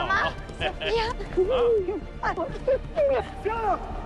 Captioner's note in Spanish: Risas